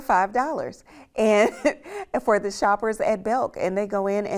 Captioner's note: chuckles